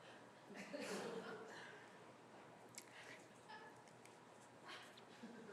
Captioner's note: chuckles